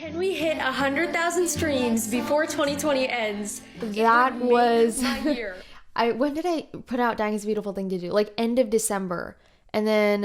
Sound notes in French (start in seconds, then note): 4.9 rire